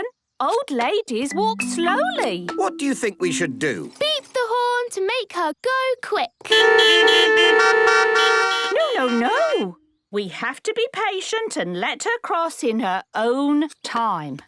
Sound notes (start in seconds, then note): 6.3 beeping